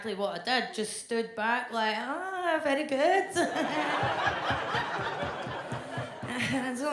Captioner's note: claps